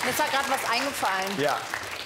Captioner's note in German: Applaus